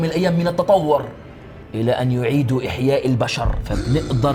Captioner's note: chuckles